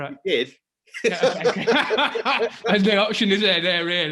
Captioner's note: laughing